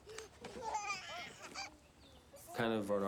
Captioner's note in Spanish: bebé se ríe